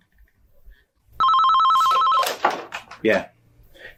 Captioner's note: phone ringing